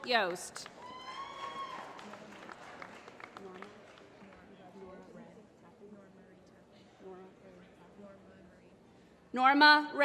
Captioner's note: applause